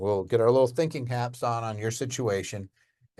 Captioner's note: none